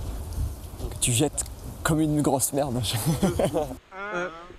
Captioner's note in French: il rit